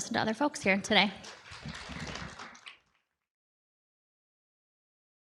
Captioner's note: audience applauds